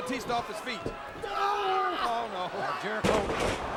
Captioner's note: wrestlers grunting